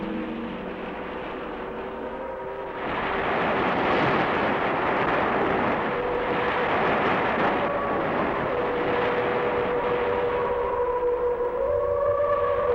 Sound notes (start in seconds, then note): 5.2 eerie humming; 5.5 waves crashing